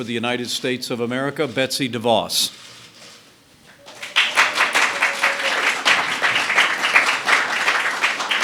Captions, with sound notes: the United States of America, Betsy DeVos. (applause)